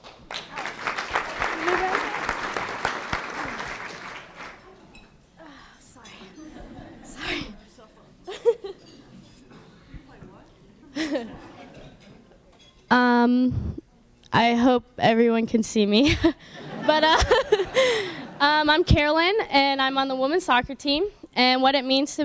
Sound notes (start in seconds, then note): 0.0 applause; 6.0 laughs; 16.6 laughs